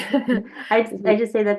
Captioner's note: laughs